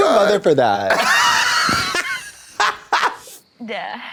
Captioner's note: blonde Women hoot